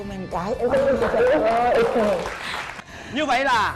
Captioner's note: applause